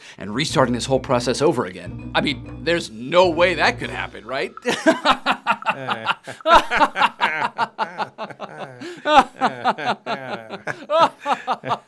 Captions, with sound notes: and restarting this whole process over again. I mean, there's no way that could happen, right? (laughing) (Malcolm and Dick laughing)